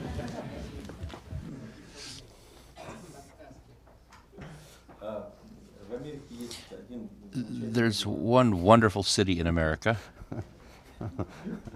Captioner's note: laughter; through translator